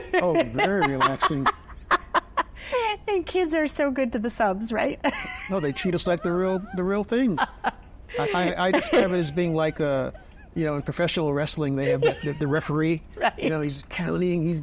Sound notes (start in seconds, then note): 2.0 laughs; 8.1 laughs